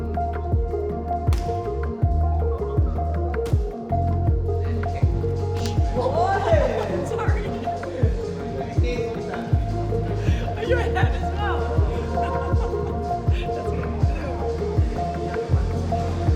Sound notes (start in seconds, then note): 5.5 painful laughter; 10.6 laughter